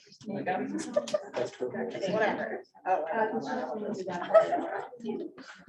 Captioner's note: audience chattering